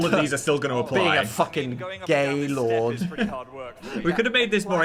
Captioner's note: chuckling